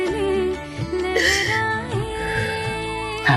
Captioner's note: sobbing